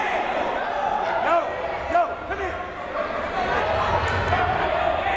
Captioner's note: crowd murmuring